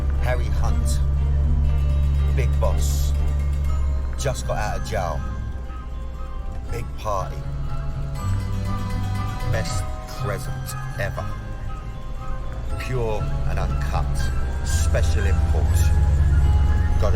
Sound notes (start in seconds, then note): 9.4 echoing